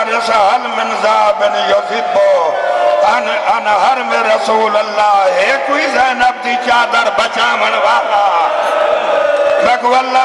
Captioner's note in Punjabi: ਤਾੜੀਆਂ